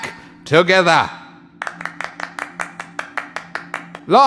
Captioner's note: claps